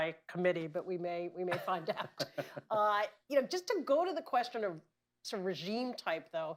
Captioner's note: laughter